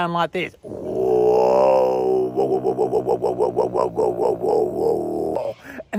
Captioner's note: instructor vocalises loudly